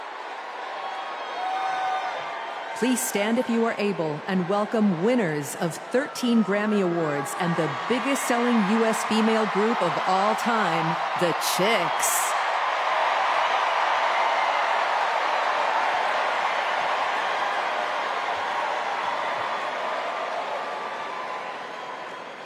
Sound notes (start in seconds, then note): 8.3 cheers and applause